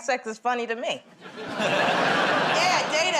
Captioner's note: laughter